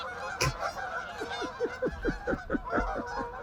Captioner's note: laughing